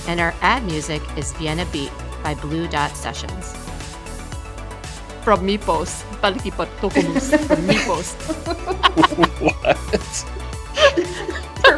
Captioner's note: laughter